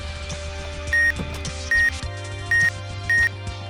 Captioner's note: last of the x-ray beeps